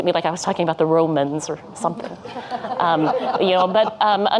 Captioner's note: audience laughing